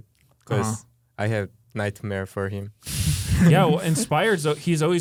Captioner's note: laughs